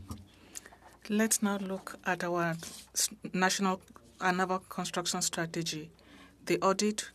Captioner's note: speaking French